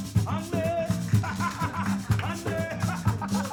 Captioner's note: laughing